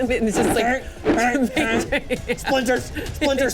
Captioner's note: grunting